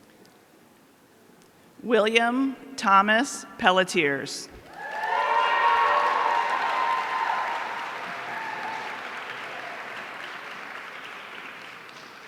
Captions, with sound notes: William Thomas Pelletiers. (audience cheering)